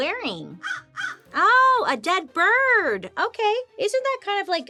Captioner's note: Joan caws